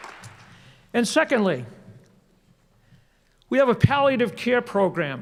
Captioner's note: applause